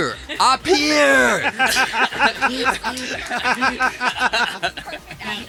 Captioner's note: laughter